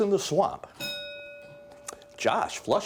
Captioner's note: bell dinging